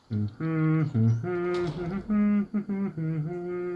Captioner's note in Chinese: 怀旧的嗡嗡声